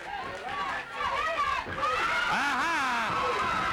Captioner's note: crowd yelling